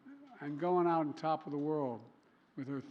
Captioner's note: laughter